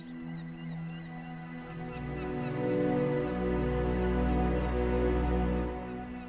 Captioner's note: gulls squawk; dramatic music